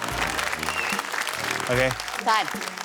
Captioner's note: cheering, applause